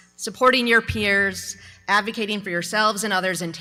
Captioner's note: none